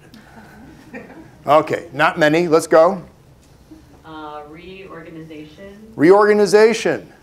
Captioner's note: laughter